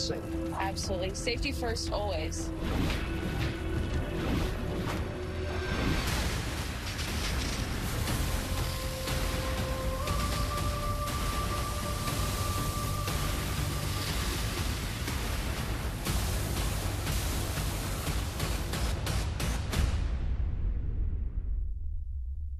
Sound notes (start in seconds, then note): 2.0 music, fire roaring; 5.7 spraying water